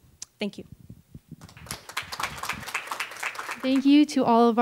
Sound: applause

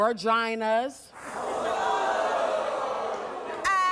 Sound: audience gasping

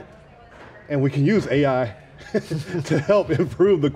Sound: laughs

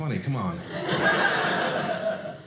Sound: audience laughing

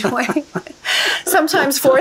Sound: couple laughing

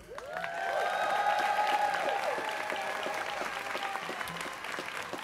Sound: students cheering

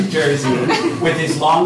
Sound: laughter

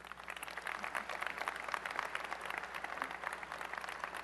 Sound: applause

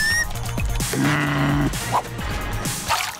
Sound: groaning

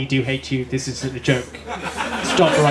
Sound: laughter

